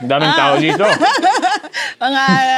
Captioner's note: laughs